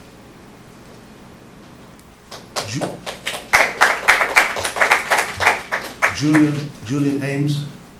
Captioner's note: applause